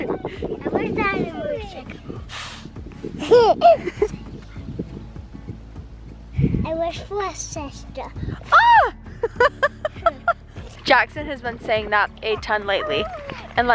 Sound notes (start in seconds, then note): 3.2 laughing; 9.2 laughing